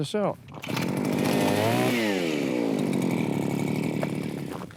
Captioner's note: drilling noise